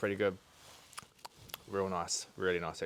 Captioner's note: smacks lips